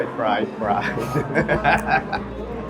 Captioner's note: laughs